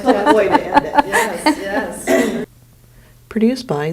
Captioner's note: laughing